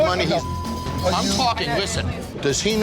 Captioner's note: beep